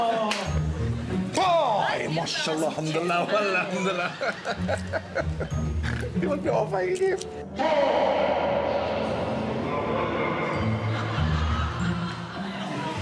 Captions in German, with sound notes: Woah! Mashallah Hamdala, Wallah Hamdala. Die wollt mir Ohrfeige geben. (Publikum lacht.)